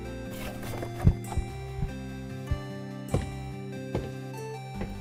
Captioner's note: footsteps